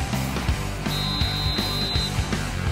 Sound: blows whistle

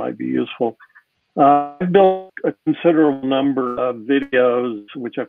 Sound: audio glitches

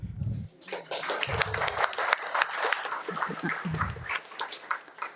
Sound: audience applauding

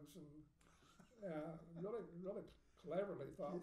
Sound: laughing

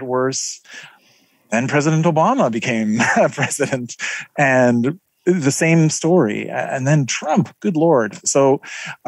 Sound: laugh

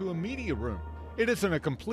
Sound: sound from TV

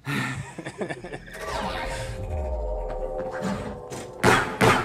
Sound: laughter; edited sounds; gun shots

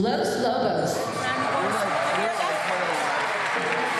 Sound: crowd cheering

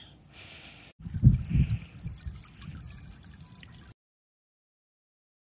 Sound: water trickling

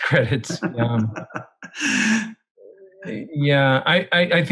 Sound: laughing

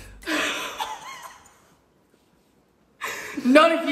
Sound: laughs

